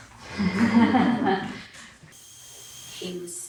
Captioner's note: all laughing